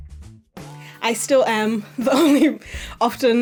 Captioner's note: Sali chuckles